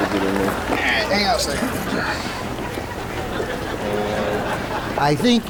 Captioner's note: raucous laughter; audience laughing